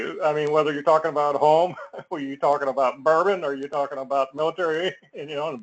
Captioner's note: laugh